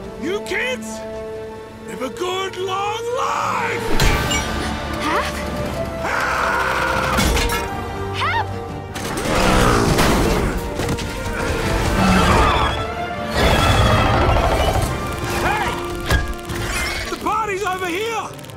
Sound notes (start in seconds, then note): 5.8 shouts; 13.3 roars